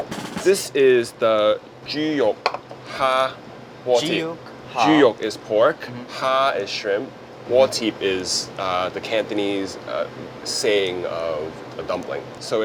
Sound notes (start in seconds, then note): 1.4 Cantonese language; 7.7 cantonese langues